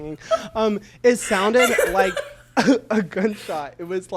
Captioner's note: laughs